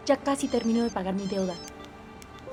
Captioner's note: speaking spanish; phone beeps